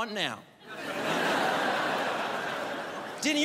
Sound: crowd laughs

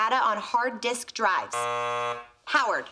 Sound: buzzer

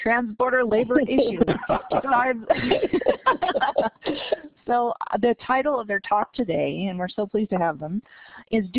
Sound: laughter

